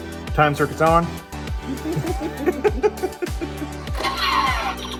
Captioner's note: laughter